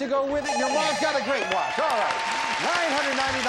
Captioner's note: beep